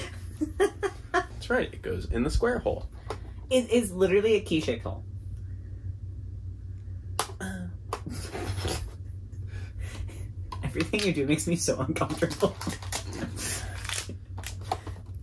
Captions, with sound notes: -That's right, it goes in the square hole. -It is literally a key shaped hole. -*moans* -Everything you do makes me so uncomfortable.